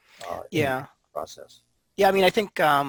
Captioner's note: voice muffled